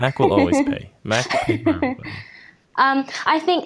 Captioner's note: laughs